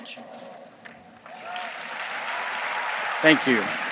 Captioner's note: audience applauds